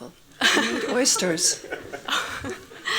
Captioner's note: laughing; laughs